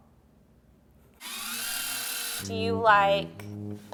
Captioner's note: film rewinding